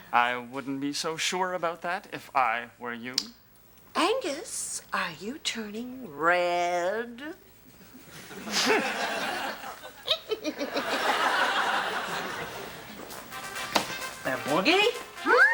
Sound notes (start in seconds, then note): 7.9 audience laughs; 8.7 scoffs; 10.0 Ms. Atoll cackles; 10.1 audience laughs